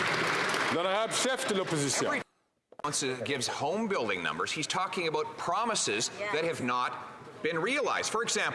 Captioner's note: some Applause